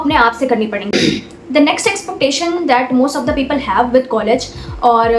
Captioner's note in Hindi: गला साफ़ करने की आवाज़